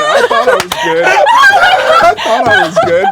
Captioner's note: everyone laughs